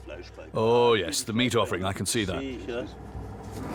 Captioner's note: in German